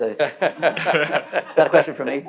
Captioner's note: audience laughing